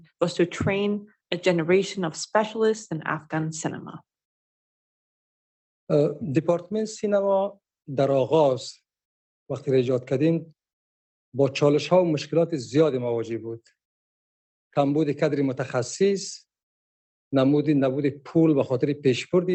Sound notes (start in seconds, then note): 6.3 speaking dari